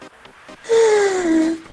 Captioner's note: yawns